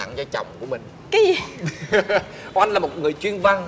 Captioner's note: laugh